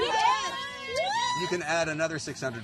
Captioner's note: cheering & applauding